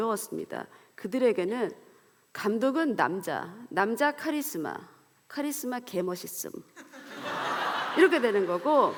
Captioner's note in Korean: 웃음